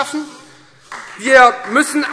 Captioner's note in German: Beifall Freie Demokraten